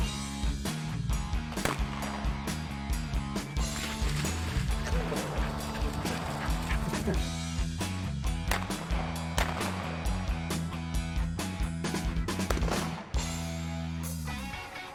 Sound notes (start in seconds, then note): 0.1 upbeat rock music; 1.6 guns banging